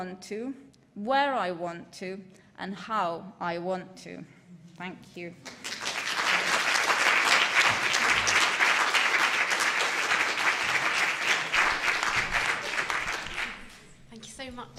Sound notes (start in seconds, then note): 4.7 applause